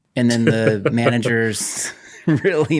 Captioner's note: laughing